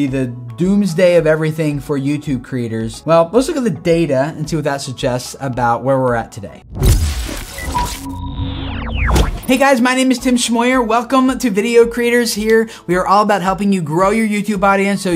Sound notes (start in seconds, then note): 6.7 sound effects